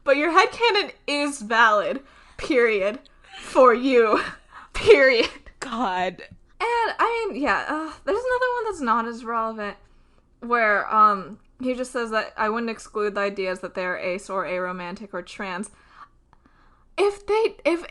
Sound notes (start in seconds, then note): none